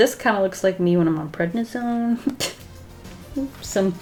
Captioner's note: short chuckle